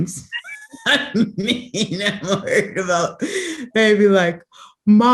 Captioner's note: laughter